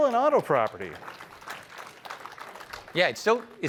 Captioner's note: applause